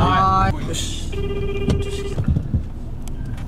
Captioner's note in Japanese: 呼び出し音